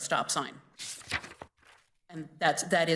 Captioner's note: paper flapping